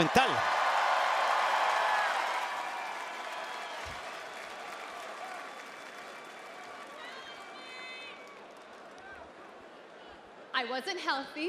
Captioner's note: applause